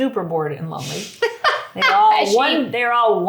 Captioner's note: laughing